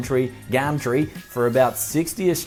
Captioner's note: surfer Accent